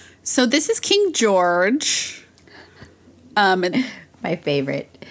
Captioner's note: laughs